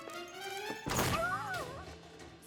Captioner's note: crash